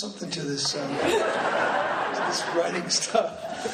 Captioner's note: laughing